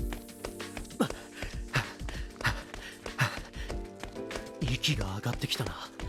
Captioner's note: panting